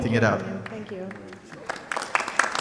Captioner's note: audience clapping